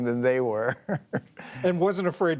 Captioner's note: laughter